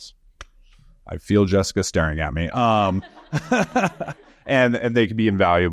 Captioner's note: chuckles